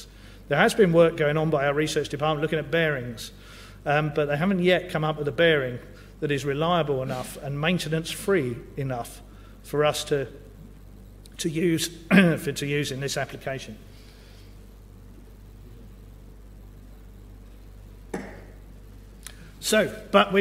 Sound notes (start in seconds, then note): 13.9 cough